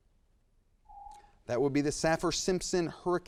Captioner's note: timer dings